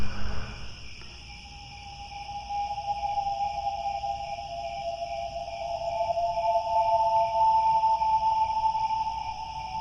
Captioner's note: crickets, haunting whistle